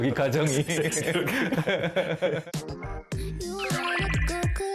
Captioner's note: ㅎㅎㅎㅎㅎㅎㅎ